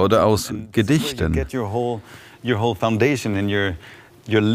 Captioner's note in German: Er beendet den Satz auf Englisch